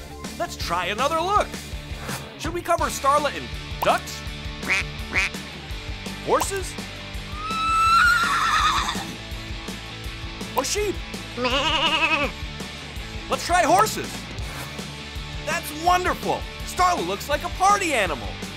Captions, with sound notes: Let's try another look, shall we cover Starla in ducks? [quacking] horses, [whinnying] or sheep? [bleating] Let's try horses. That's wonderful. Starla looks like a party animal.